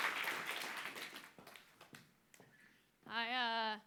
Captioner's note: applause